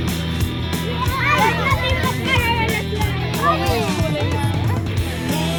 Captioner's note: children: excited chatter